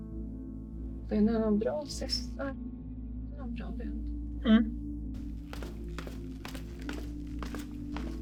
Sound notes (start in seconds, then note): 5.2 footsteps down the stairs